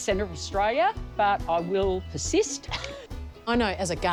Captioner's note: laughs